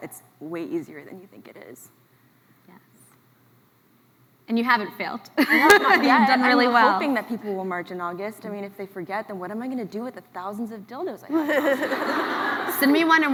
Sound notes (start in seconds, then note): 5.4 laughs; 11.3 laughs